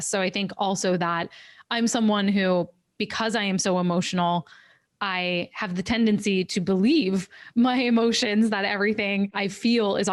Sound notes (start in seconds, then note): none